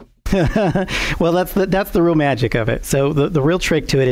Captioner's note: laughs